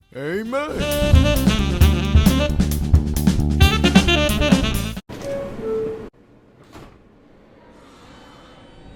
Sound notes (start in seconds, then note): 0.4 jazzy music; 5.1 train doors opening